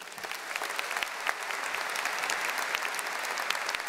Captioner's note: audience applauding